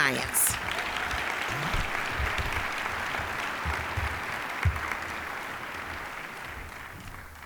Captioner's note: applause